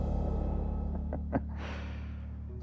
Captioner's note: laughs; suspenseful music